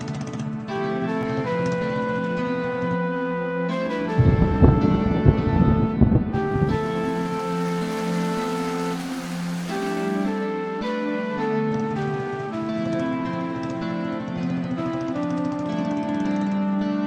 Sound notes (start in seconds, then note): 4.0 rumbling noise of rain clouds; 6.3 raining